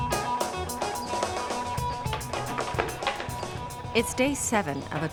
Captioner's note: hammering